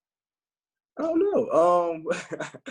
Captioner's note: laughs